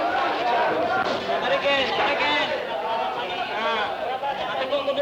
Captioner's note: Indonesian speech